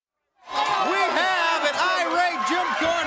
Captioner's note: crowd cheering